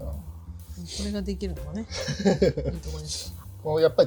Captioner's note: laughs